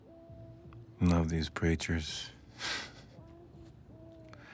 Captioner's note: laughs